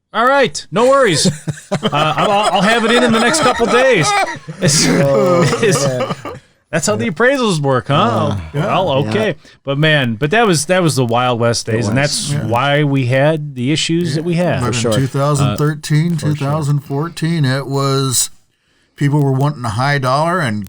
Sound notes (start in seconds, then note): 4.6 laughing